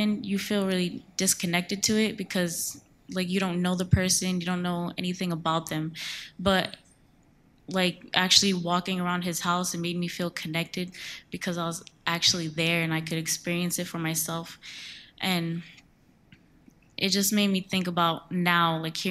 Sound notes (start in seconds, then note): none